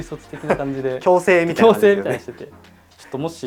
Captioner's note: laughs